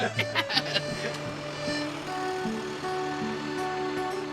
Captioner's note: laughing; truck rumbling